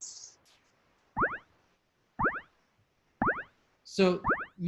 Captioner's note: chiming sound